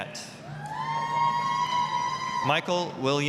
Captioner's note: applause, cheering